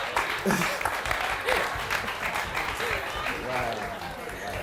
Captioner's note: audience applauding